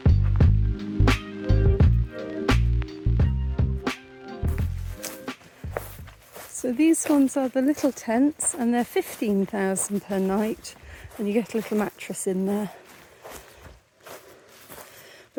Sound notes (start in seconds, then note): 4.7 chill music; 5.3 footsteps through grass